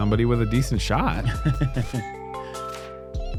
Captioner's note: chuckles